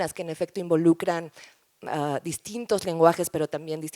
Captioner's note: none